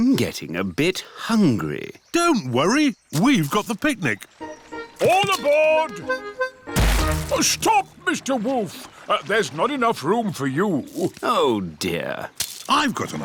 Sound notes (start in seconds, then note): none